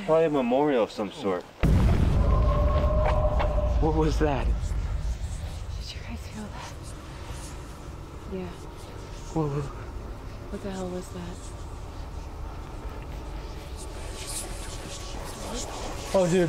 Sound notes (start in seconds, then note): 1.6 explosion booming; 2.1 distant shriek echoing; 14.0 haunted voices whispering